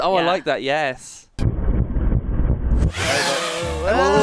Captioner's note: drone whirring